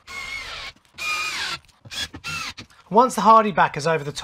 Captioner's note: drilling